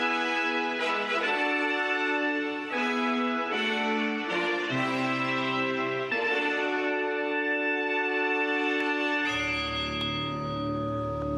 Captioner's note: speaking global language